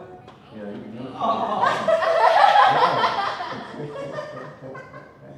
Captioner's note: laughter